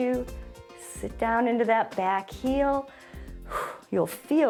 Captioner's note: short exhale